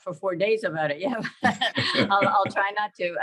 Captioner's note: chuckles